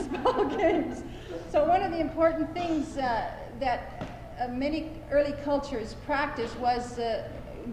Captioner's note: laughter